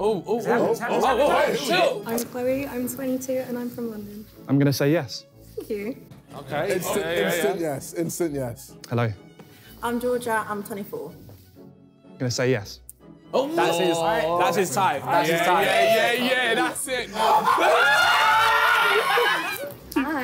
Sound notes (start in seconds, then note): 15.1 guys chattering; 17.0 guys laughing